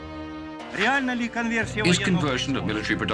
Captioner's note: speaking Russian